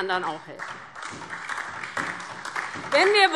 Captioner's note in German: Beifall DIE LINKE und vereinzelt SPD